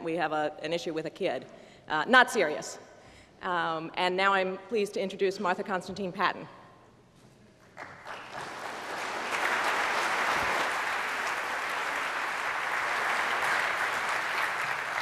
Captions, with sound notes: We have an issue with a kid. Not serious. And now I am pleased to introduce Martha Constantine-Paton. [APPLAUSE]